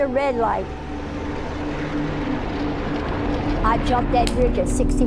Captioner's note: car engine rumbling